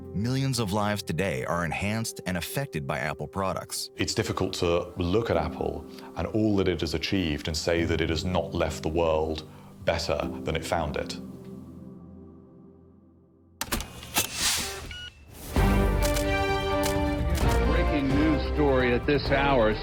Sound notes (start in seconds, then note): 13.9 device buzzes and beeps; 15.5 rousing orchestral music